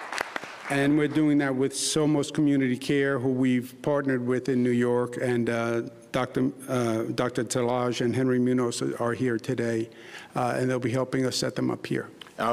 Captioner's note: applause